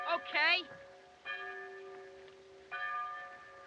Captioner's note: tolling Continues